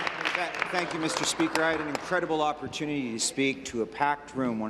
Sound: applause

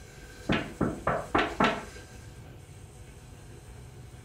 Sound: door knocking

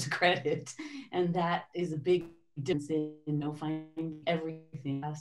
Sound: audio warps

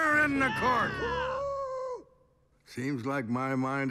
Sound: someone cheers

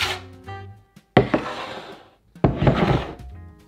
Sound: bowl sliding

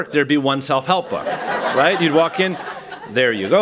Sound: laughter

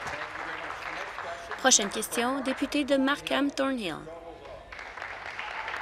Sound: applause

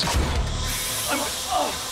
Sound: hissing sound

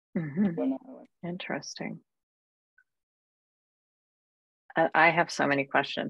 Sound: speaks faintly

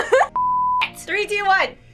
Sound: beep

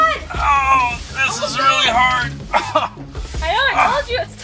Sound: screams; groans

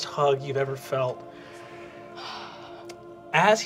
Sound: sighs

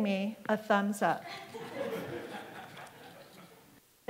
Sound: laughter

